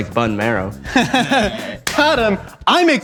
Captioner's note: both laughing